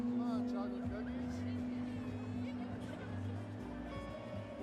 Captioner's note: muffled chatter